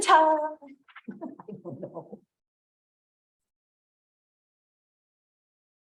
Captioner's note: laugh